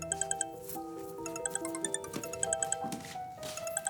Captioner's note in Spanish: Suena el celular